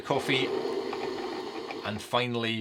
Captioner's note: coffee machine whirring